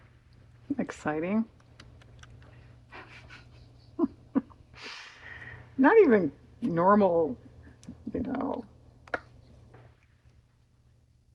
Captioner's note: laughs